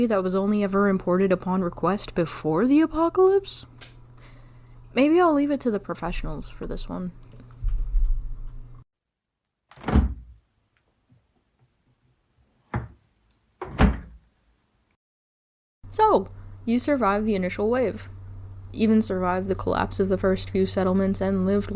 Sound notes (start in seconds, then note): 8.6 fridge door closes; 8.6 fridge door opens